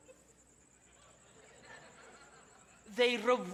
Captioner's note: audience laughs